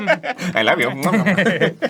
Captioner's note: kissy noises for boglin